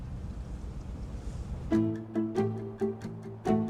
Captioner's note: waves crashing; gentle upbeat music